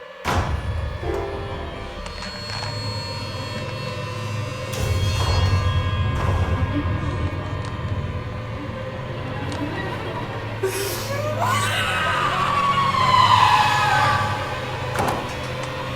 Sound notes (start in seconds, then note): 0.1 suspenseful music; 10.6 screaming